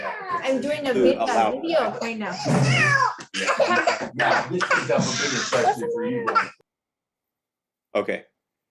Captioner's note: background Chatter